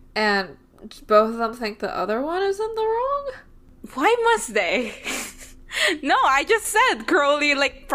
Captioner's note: laughs